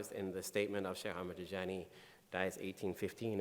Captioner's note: speaking in foreign language